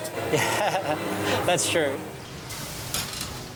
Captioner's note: laughter